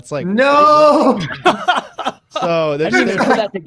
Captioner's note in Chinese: 笑声